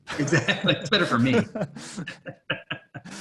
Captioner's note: laughing